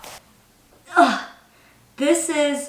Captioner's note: grunts